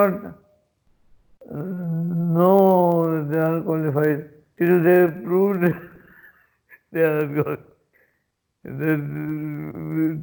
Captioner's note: laughs